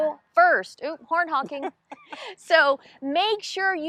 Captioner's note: laughing